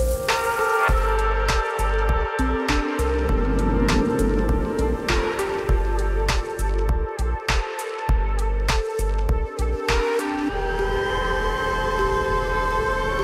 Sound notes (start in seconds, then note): 0.1 water spattering; 2.4 air whooshing; 7.2 upbeat ambient music